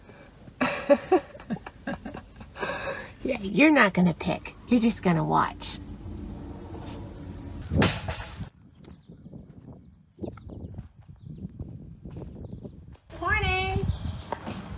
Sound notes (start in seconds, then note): 0.6 laughing; 7.6 wagon handle bang